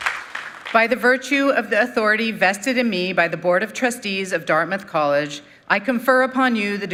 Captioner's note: applause